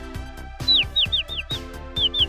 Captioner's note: Goldie tweeting